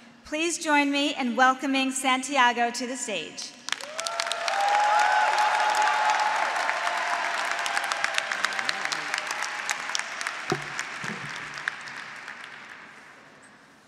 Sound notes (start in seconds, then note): 3.7 graduates applauding; 3.8 graduates cheering